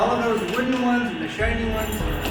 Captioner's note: people talking